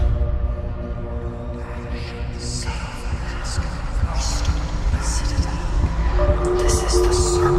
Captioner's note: whispering